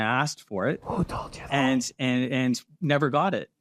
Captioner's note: whispers